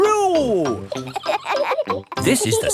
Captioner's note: kids laughing